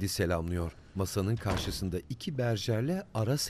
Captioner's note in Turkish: Kapı kapanma sesi